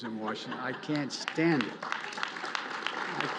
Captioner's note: applause